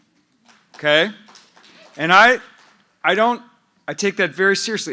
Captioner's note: applause